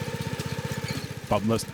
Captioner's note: engine rumbles